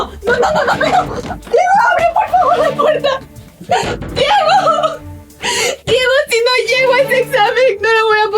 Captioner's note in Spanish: risas